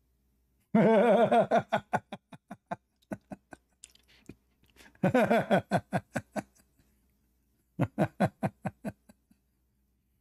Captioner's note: Ketawa